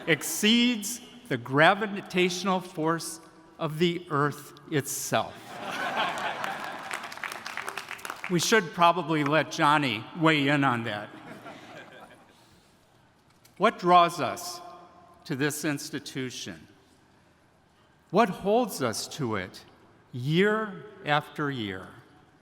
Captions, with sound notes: exceeds the gravitational force of the Earth itself. (attendees applauding) (attendees laughing) We should probably let Jonny weigh in on that. What draws us to this institution? What holds us to it year after year?